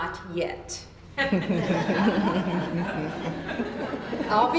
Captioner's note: laughter